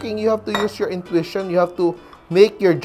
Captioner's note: clang